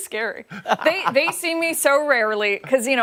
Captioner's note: laughter